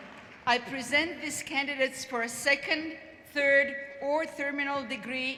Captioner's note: applause